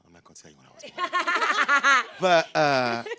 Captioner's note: group laughs